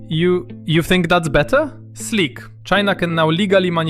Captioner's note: stammers